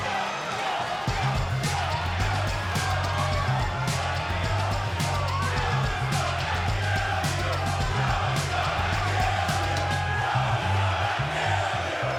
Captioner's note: crowd cheering